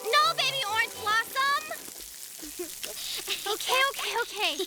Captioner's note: laughing